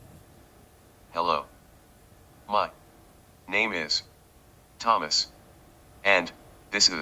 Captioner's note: automated Voice